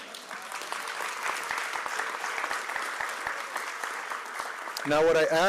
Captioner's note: applause